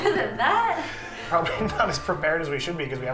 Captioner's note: laughs